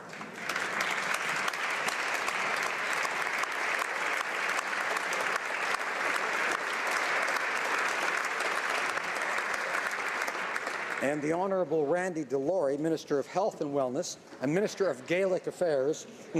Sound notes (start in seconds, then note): 2.6 applause